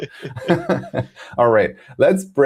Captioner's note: laughs